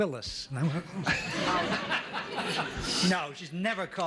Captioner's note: gasps